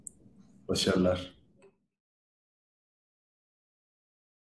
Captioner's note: Turkish speech